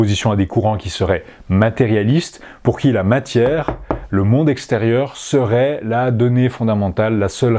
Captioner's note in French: toc toc